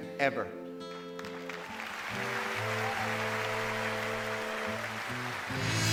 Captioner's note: applause